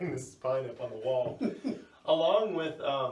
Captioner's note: laughs